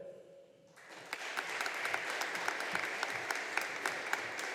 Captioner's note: audience applauding